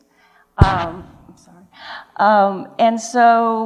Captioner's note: microphone glitch